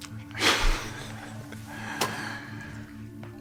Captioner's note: scoffs